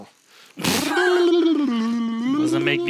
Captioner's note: burbling